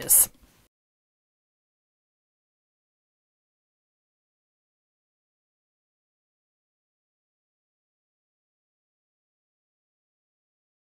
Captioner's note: no Sound Present